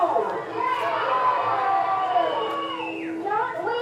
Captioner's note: cheers